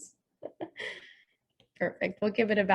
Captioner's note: laughing